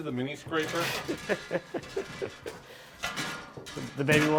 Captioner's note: laughs